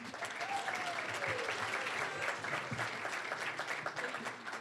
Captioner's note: cheering, applause; applause